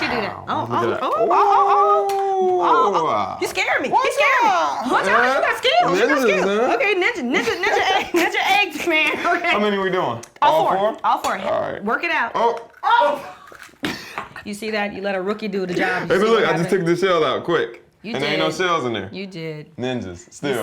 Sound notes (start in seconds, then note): 7.3 laughter; 13.6 chuckles